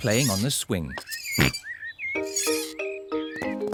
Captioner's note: oinks